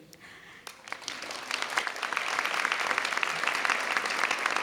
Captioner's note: audience clapping